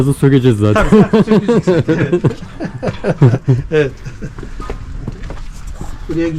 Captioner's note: laugh